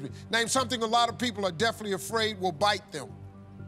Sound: none

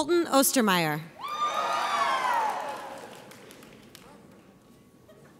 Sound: audience cheers

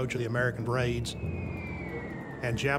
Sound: bombs whistling

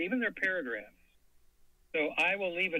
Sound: silence

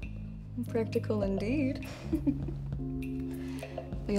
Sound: laughs

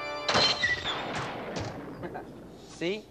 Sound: thuds

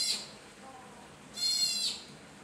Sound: otter crying

